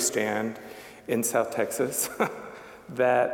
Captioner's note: chuckling